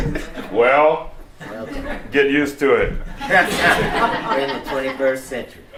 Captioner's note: laughter